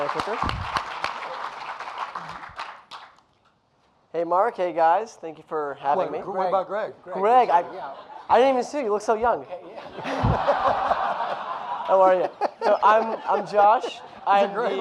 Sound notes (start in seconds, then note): 0.0 audience applauding; 9.8 audience laughing